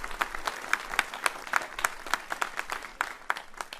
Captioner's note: applauding